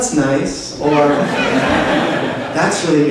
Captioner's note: laughter